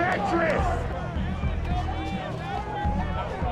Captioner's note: crowd talking